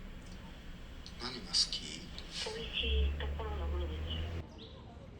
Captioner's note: 🎧 japanese radio